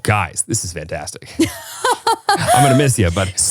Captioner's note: laughs